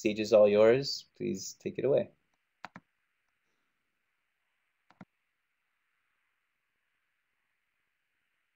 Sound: silence

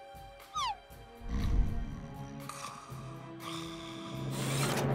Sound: snoring

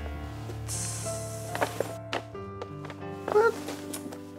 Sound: imitating sizzling pan

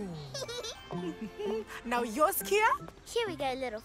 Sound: humming

